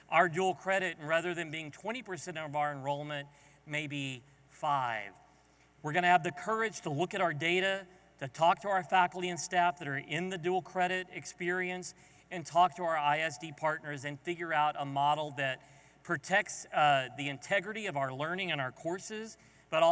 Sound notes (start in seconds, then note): none